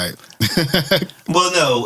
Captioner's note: laughs